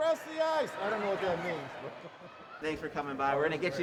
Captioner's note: laughter